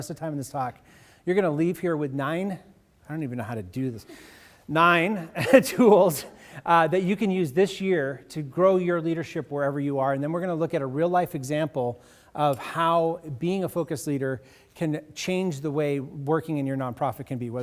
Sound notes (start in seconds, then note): 5.0 audience laughs